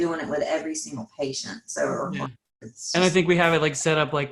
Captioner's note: faintly speaking